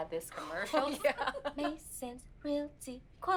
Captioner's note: laughs